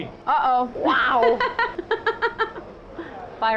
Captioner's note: laughing